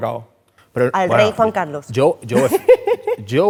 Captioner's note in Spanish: ríe